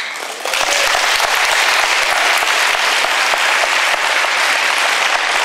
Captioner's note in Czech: potlesk